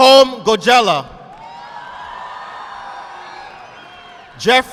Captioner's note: audience applauding